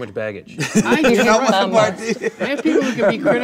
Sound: laughing

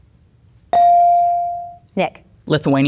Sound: bell dinging

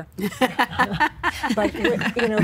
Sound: laughing

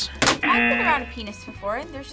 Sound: buzzer

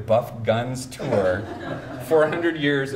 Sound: audience chuckles

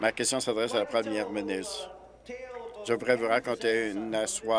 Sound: applause

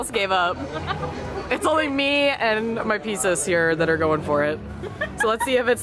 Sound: laughing

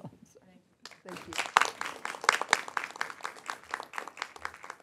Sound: applause

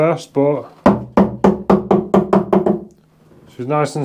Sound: hammering

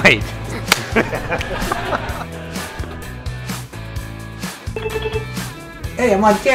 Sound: laughing

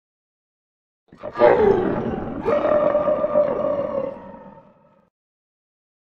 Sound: growl

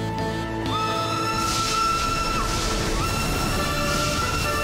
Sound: train Whistle Blows

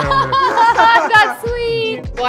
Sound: laughs

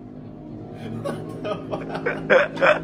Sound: laugh

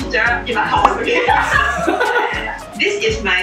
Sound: laughs

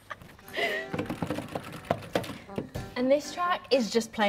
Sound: chuckling; playful music; buttons clanging

